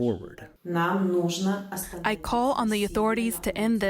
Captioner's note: through translator